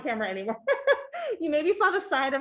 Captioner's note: chuckling